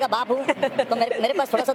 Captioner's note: laughing